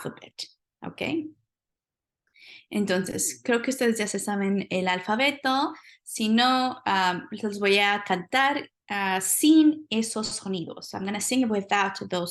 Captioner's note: speaking spanish